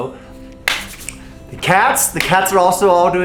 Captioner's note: hands clapping